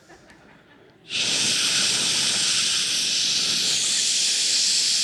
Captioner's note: imitating urinating